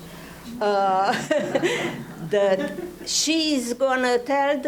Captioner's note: audience laughing